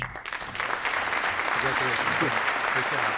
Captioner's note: applause